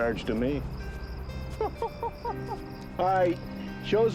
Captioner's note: laughing